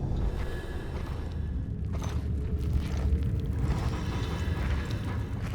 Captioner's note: footsteps crunching